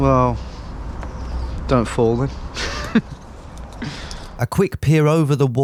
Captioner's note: laughs